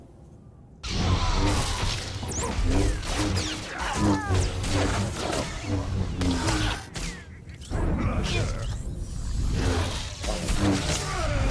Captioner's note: gunshots